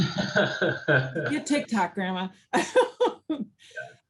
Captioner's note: laughs